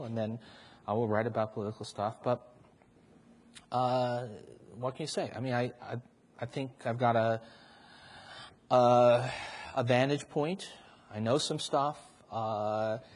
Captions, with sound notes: And then I will write about political stuff. What can you say? I think I've got a [sighs] a vantage point. I know some stuff.